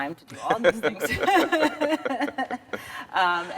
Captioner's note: laugh